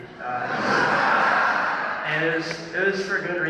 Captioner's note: laughter